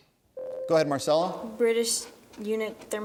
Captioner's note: ding